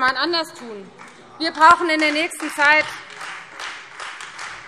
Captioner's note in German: Beifall Freie Demokraten und vereinzelt DIE LINKE